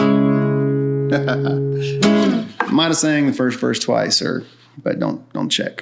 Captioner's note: chuckles